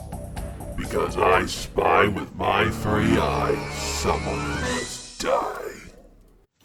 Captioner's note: voice Deepens